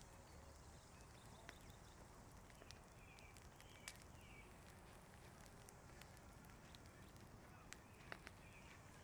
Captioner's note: birds chirping, fire crackling